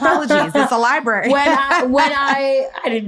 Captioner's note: laughs